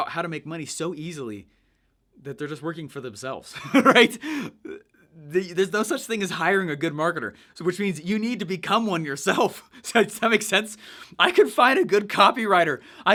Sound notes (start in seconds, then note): 3.6 laughs